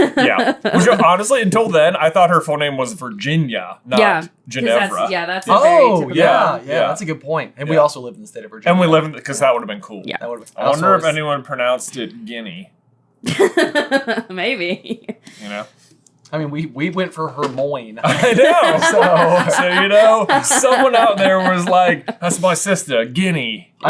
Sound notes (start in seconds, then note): 13.3 laughs